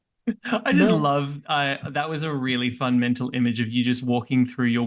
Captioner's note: chuckles